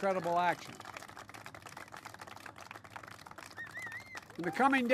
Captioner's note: applause